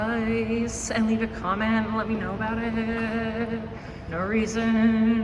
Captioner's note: sing-song